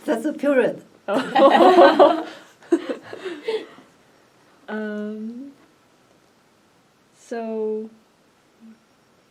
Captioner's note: all laugh; all laugh